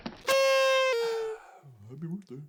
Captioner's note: party horns; mockingly